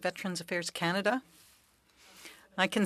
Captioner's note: speaking French